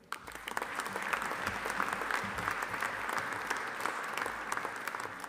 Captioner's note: audience applauding